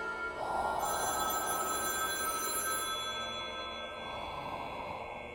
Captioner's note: phone ringing